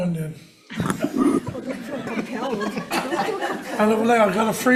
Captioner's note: everybody laughing